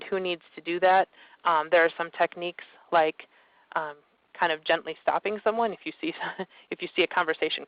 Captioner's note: chuckles